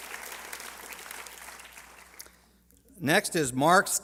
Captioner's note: applause